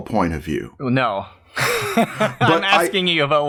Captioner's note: laughter